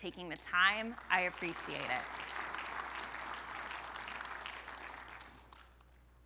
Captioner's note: audience applauding